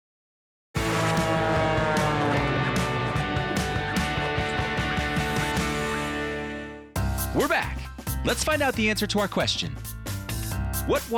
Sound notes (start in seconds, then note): 0.7 plane engine roaring; 0.8 upbeat rock music